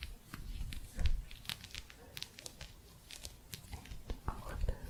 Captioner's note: gentle scratching